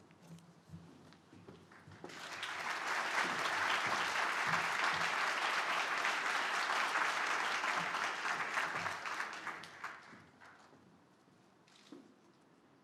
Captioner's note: applause